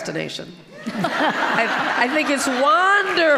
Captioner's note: audience laughing